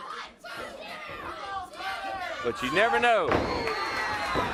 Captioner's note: crowd chatter